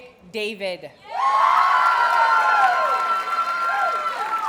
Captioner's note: audience cheers and applauds